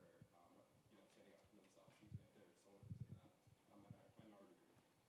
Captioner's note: speaking faintly